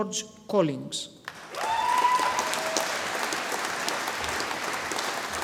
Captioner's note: audience applauding